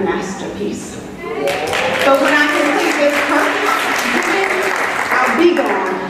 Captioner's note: audience applauding